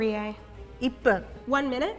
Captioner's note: speaking in Japanese